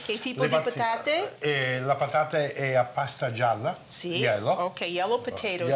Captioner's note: speaking Italian